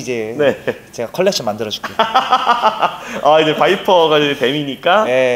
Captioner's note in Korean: 웃음